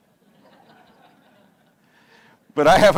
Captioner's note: audience laughs